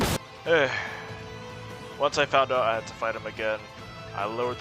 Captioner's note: sigh